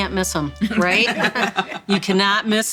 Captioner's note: everyone laughing